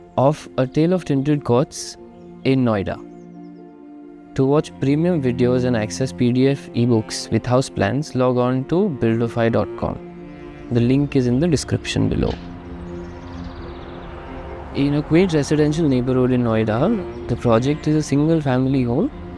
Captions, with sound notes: of A Tale of Tinted Courts in Noida. To watch premium videos and access PDF eBooks with house plans, log on to buildofy.com. The link is in the description below. [Wind gushing] [Birds chirping] In a quaint residential neighborhood in Noida, the project is a single family home